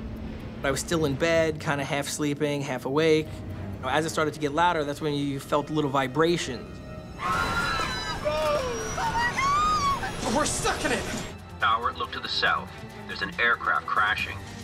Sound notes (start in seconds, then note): 7.1 passengers screaming